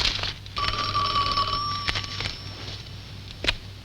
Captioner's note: phone ringing